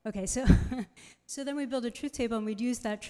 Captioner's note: laughs